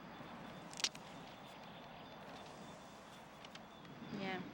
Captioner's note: branches cracking